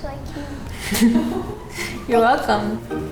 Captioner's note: laughing